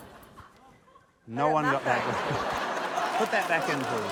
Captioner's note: laughter